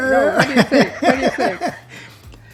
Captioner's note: laughing